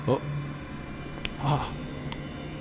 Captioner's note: slap